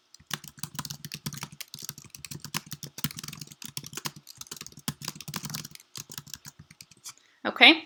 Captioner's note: typing